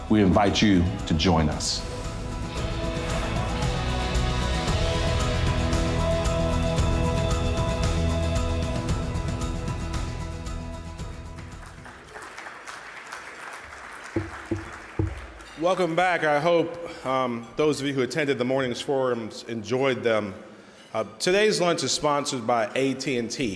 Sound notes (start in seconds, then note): 2.4 upbeat music; 11.2 audience clapping